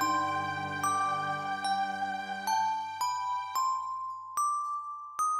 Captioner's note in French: none